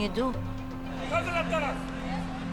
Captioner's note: man yelling in native language